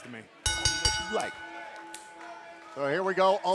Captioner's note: bell ringing